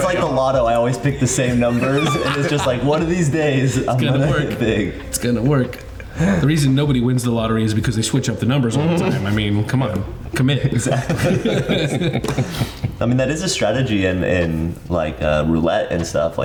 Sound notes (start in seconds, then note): 5.6 chuckles; 10.6 all laughing